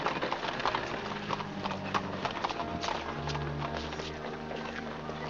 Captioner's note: carriage rattles away; organ plays; hooves trotting; organ plays; indistinct conversation; organ plays